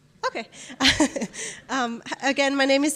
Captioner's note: laughs